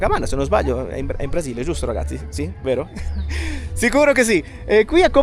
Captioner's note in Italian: risate